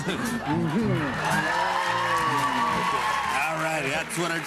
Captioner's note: cheers and applause